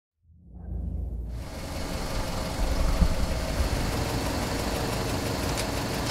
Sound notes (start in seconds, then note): 1.3 car engine idling